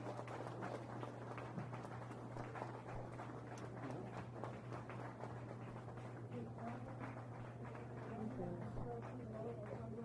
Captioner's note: applause